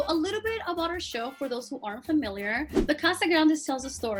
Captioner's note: air whooshing